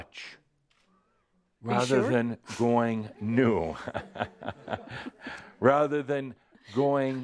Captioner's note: some giggles